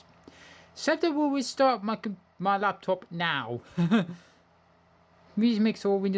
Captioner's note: chuckles